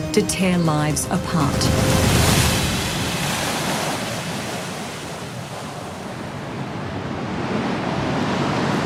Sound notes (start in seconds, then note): 2.5 waves crashing